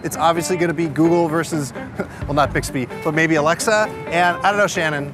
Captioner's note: chuckles